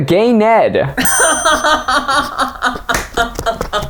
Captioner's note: both laughing